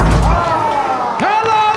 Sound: crowd cheering

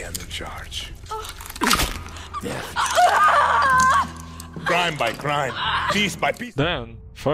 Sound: Dani screams

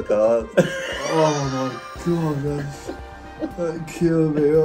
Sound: father laughing

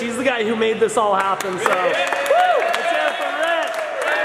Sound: cheering

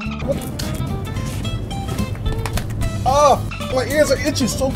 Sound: dolphin squeak

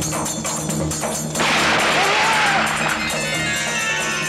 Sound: gunshot

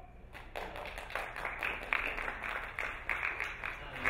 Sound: applauding

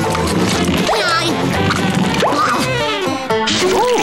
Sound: grunting

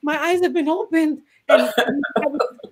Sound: laughs

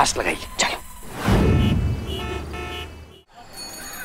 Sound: traffic noises

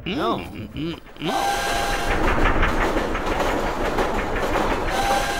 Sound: train whistles and clacks

